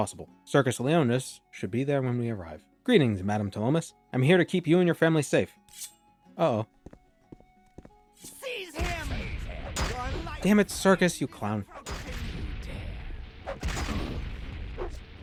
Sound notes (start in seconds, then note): 5.7 weapon unsheathing